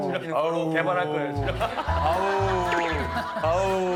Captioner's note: everyone is booing him